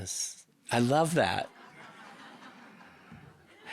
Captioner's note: audience laughing